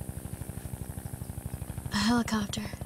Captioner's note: Helicopter Approaching, Faint